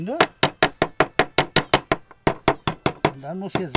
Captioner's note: knocking sound